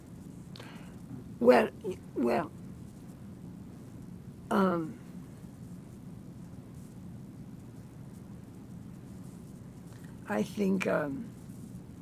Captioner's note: pauses 8 seconds